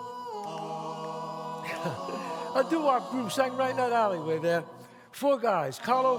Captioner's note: chuckles